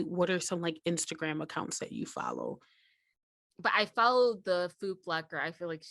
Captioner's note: none